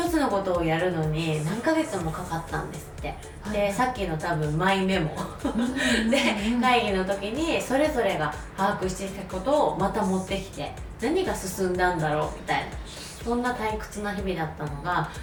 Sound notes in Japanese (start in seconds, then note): 5.4 笑い